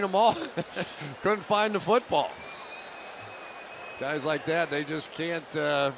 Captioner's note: chuckles